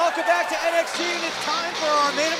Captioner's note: cheers & applause